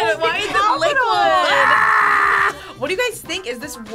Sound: screams

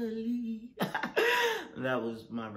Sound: laughs

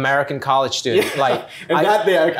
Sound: laughter

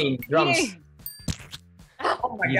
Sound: bell dings

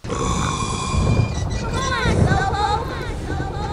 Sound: echoing

